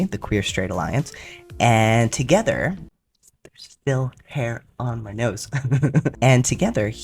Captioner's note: laugh